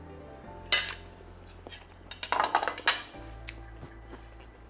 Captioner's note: plate clinking